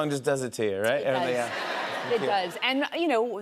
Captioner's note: laughter